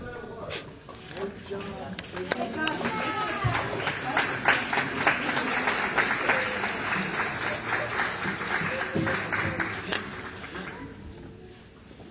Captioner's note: applause